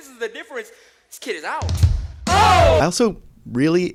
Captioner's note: spoken normally